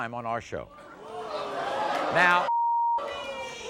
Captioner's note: crowd yells